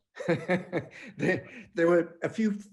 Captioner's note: laughing